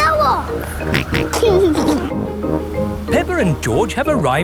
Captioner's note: snorts and giggles